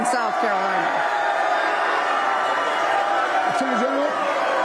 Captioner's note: cheers and boos